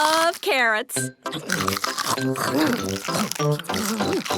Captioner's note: crunch